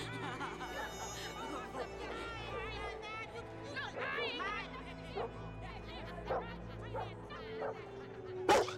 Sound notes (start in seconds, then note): 3.2 women arguing